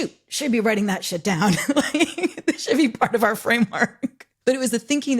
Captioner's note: laughs